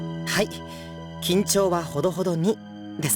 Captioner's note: none